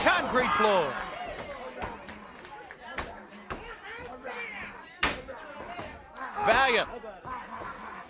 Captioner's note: crowd chatter